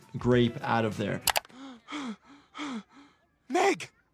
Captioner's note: Stewey gasps